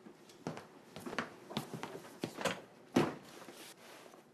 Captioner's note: footsteps